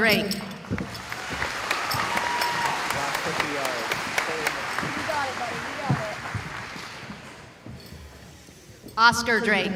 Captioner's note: cheering